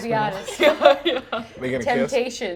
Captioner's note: laughter